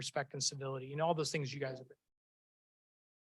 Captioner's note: speaks faintly